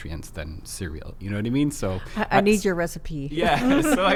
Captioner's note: laughs